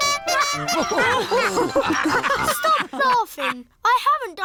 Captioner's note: toots horn; all laugh